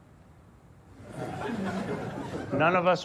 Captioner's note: audience laughs